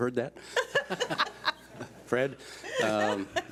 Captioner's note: laughs